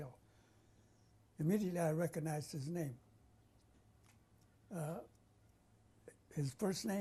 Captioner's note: pauses for 3 seconds